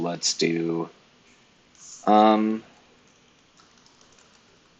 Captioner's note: keyboard keys clicking